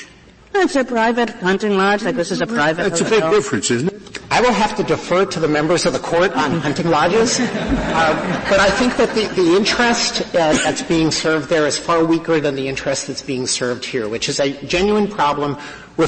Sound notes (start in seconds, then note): 6.3 laughter